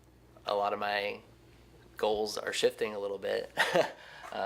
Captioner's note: chuckles